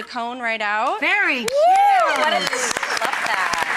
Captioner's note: applause